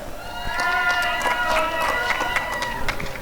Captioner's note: applause and cheering